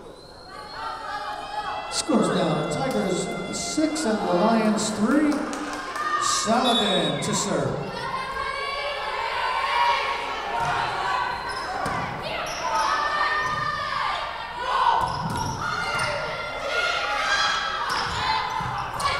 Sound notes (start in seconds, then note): 9.3 whistle blowing